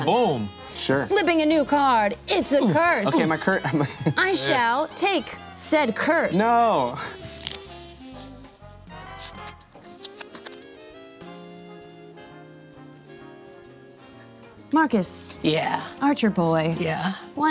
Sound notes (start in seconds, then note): 7.0 laughs